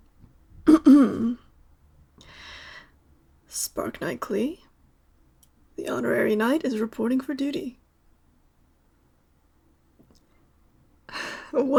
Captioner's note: clears throat